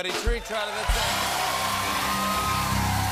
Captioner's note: cheers and applause